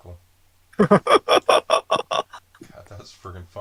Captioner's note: laughing